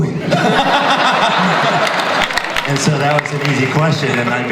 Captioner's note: audience laughter